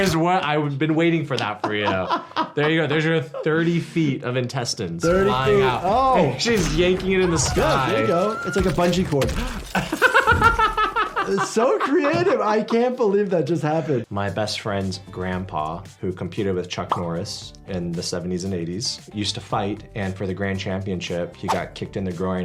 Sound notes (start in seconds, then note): 1.6 laughs; 9.3 laughs